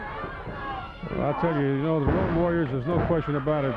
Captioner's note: body thudding